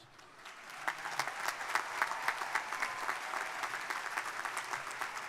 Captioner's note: crowd applauding